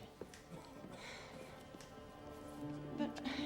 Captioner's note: breathing heavily